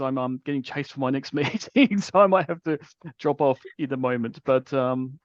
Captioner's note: laughs